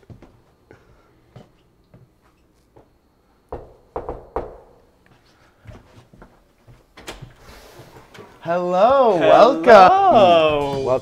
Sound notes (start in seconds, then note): 3.5 knock, knock